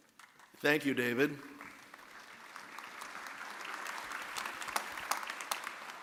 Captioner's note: audience applauding